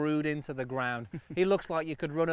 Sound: chuckles

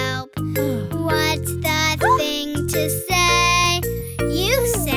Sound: mother sighs

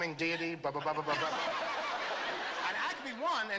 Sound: laughter

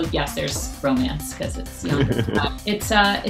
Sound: laughs

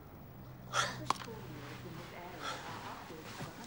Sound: gasps

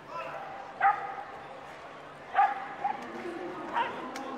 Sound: dog barking

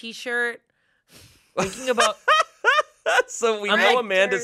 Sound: laughs

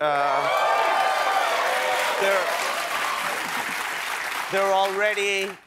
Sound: applause

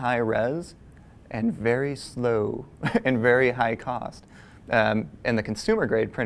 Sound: laugh

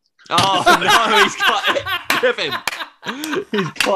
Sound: laughter

